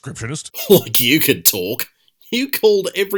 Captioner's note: scoffs